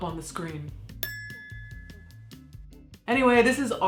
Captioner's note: bell ringing